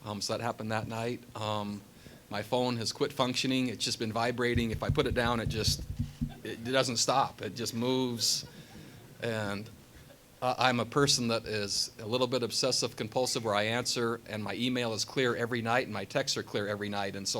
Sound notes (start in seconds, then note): 4.5 taps table